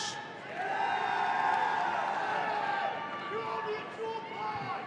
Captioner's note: audience cheering